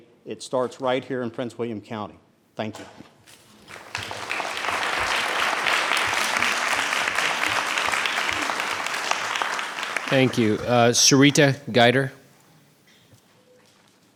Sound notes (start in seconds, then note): 3.6 audiences applauds